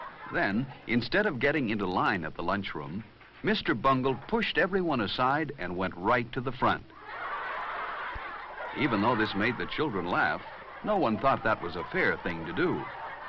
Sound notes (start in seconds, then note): 6.9 laughter